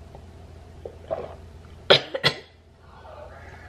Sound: coughs

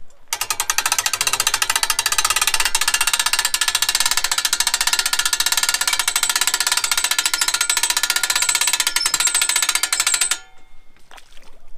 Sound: winch boat sounds

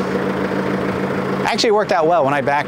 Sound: engine noise

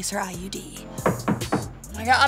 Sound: knocking on door

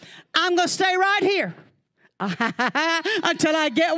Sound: laughing

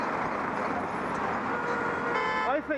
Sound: horns sound from behind driver

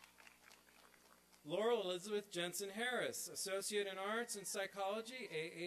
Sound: applause

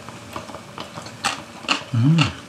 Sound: crunchy chewing

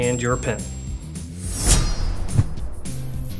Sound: blade slicing; upbeat music

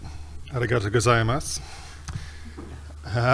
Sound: speaking in Japanese

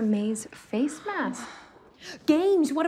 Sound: exhales

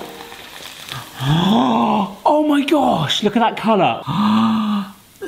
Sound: gasping

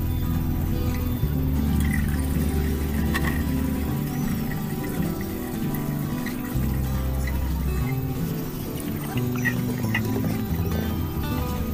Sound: pouring water & Music SOUND

